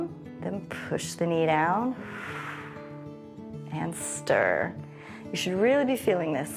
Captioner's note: exhales